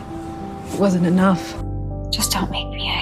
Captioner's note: voiceover